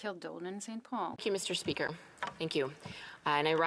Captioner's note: speaking French